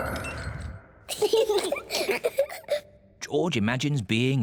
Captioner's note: both laugh